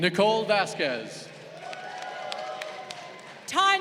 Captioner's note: crowd cheering